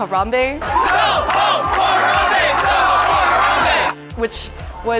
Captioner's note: crowd